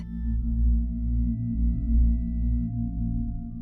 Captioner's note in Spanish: Zumbido armónico bajo